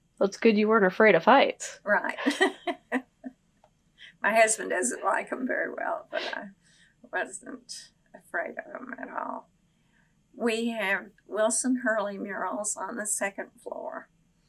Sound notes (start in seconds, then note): 2.0 laughs